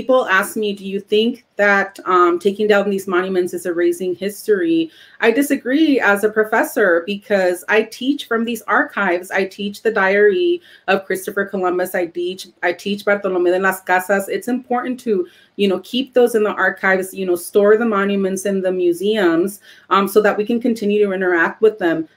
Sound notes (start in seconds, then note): 12.6 speaking Spanish